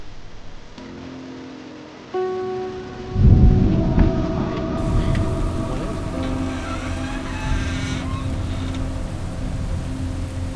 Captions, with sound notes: (thunder rolling) Hi. Come on in. (door creaks)